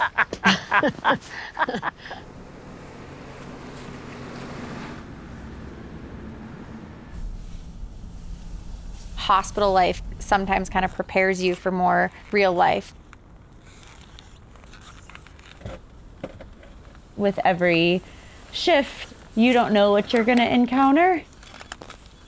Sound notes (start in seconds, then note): 0.0 both laughing; 2.8 engine rumbling